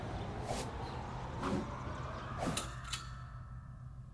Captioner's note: wind blowing